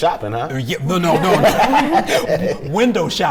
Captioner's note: laughing